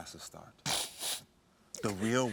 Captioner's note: sniffles